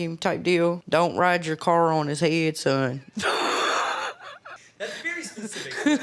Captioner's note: laughs